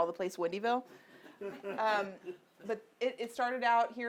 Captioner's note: audience laughing